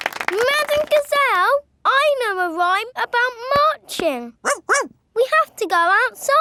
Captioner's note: laughing and clapping; barks